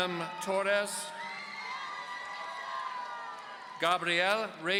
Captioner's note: audience cheering